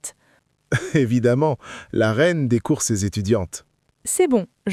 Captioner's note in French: rire